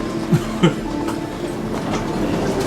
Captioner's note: laugh